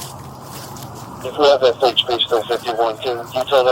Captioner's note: radio chatter